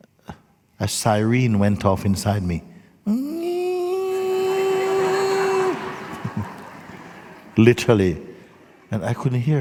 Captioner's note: laughter